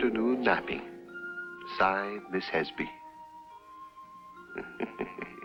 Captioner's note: chuckles